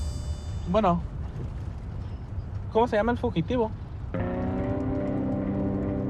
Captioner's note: speaking spanish